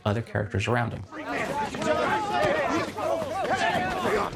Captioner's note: men shouting